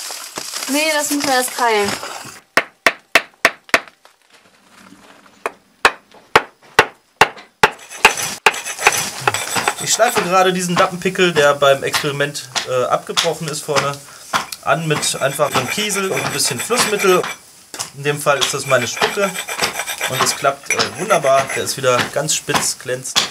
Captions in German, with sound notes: Ne, das müssen wir erst keilen. [ dumpfes Klopfen ] [ kratzendes Schleifen, Metall auf Stein ] Ich schleife gerade diesen Lappenpickel , der beim Experiment abgebrochen ist vorne an mit einem Kiesel und etwas Flussmittel - in dem Fall ist das meine Spucke und das klappt wunderbar, der ist wieder ganz spitz, glänzend.